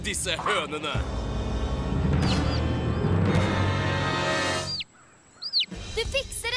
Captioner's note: cheeping